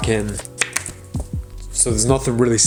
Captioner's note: card popping